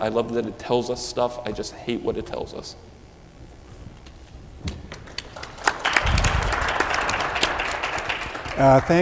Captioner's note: applause